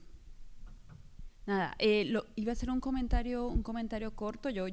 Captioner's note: speaking spanish